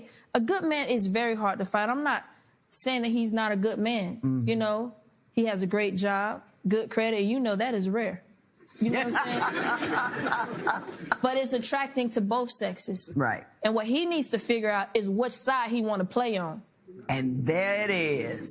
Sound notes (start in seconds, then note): 8.8 laughter